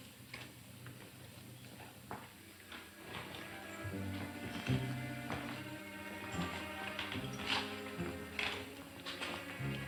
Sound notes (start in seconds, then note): 2.2 walking footsteps; 2.9 suspenseful orchestral music